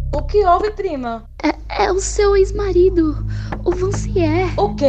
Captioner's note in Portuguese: pânico